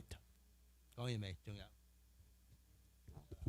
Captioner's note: speaking Chinese dialect